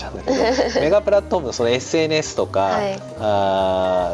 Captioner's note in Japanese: 笑い